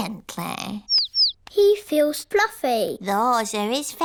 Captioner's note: chirping